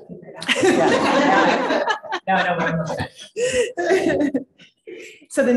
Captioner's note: chuckling